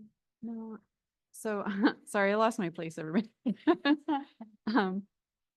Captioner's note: laughs